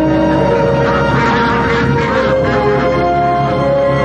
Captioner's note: ducks quacking